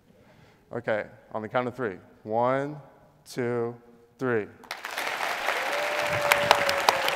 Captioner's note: applause